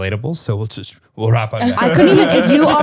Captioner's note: laughter